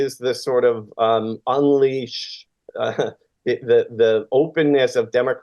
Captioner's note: laughs